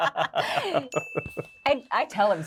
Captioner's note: both laughing; bell dings